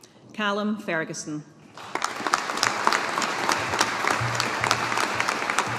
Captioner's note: audience applauding